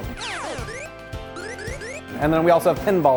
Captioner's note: video game sound effects